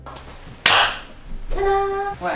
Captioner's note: claps